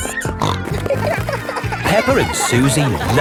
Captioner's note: snorting